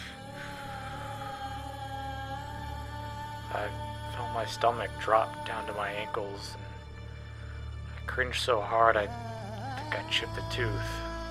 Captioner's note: breath